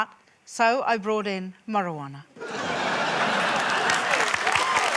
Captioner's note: laughter, applause